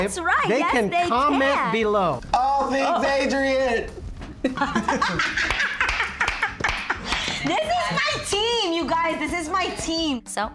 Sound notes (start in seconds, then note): 4.5 laughing and clapping